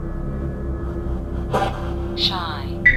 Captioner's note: radio static buzzes